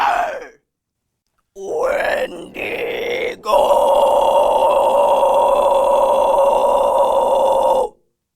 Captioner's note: alien sounds